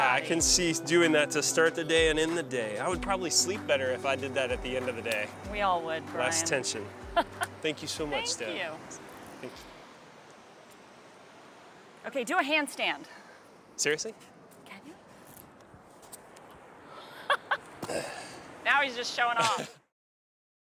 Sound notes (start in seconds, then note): 16.9 laughs